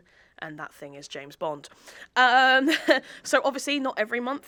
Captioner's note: chuckles